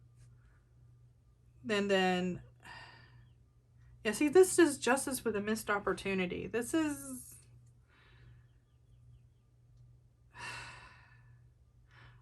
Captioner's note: sighs